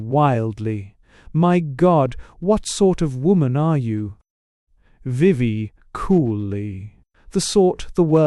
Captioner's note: querulously